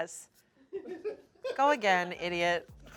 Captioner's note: crew laughs